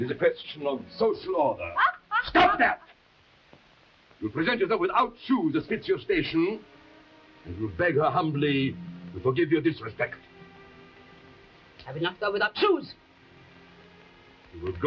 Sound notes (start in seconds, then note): 1.8 Camila laughing